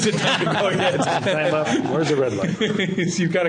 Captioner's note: laughter